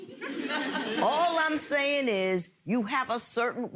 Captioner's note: audience laughs